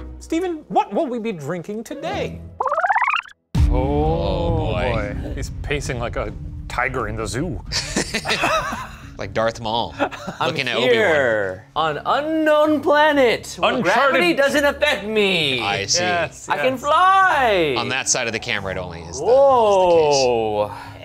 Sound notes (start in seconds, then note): 7.7 laugh